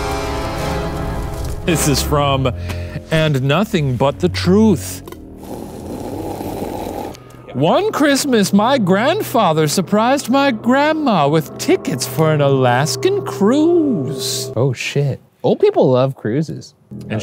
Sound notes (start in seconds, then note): 0.2 dramatic music; 5.1 sipping